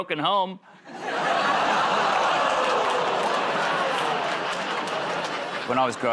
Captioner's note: laughter, groaning